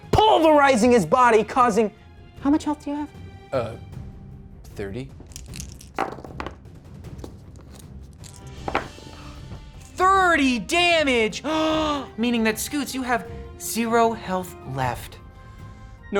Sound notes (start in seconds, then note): 5.2 rolls dice; 11.5 gasps